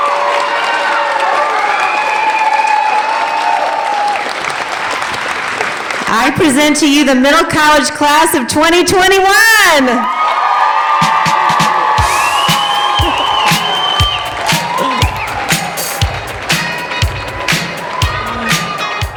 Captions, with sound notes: I present to you the Middle College class of 2021. (cheering) (upbeat music)